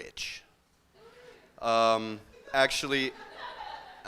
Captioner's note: laughter